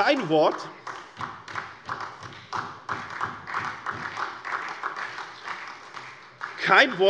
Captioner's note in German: Beifall SPD